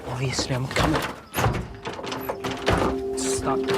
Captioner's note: creaking and thudding